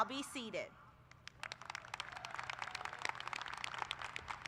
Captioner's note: applause